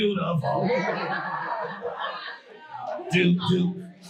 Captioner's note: audience laughing